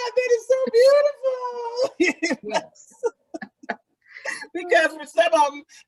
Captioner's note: laughs